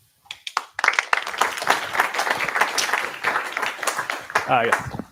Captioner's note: applause